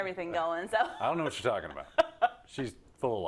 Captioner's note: laugh